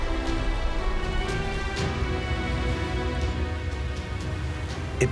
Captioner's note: water rushing